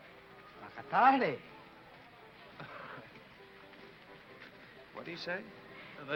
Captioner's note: speaking foreign language